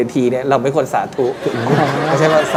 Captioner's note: laughter